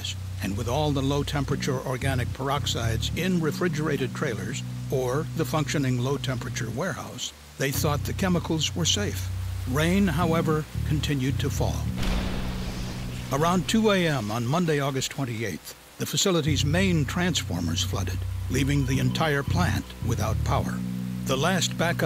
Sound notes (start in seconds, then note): 12.0 sound of explosion